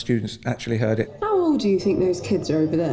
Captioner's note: student over radio